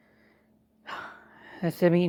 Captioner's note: sigh